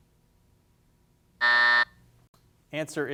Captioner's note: buzzer sounding